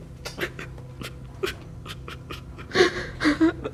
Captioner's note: Luke whimpering